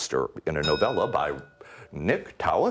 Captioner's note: ding